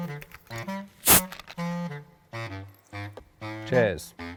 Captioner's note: goofy music; bottle fizzes